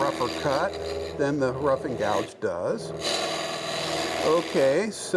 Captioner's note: machine roaring